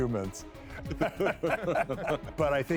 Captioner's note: laughing